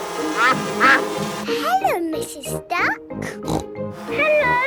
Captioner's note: quacking; snorting